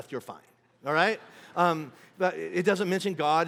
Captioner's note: congregation laughing